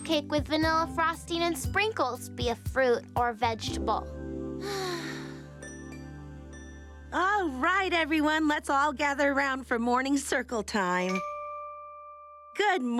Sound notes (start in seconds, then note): 4.6 sighing